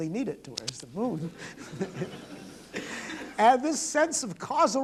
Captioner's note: laughter